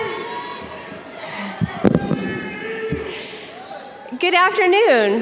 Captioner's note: students yell indistinctly